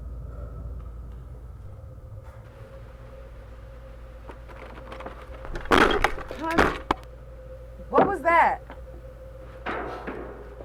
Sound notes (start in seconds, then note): 2.4 object clanging; 2.4 static crackling